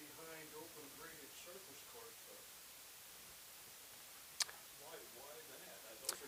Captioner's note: speaking quietly